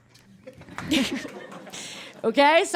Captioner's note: scattered chuckling; cracks up